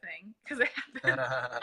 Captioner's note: laughter